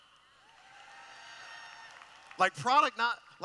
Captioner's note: cheering